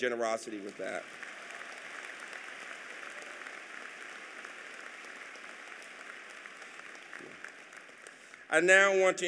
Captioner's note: applause